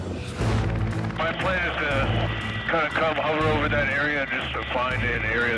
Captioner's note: man On Radio